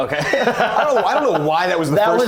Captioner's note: laughing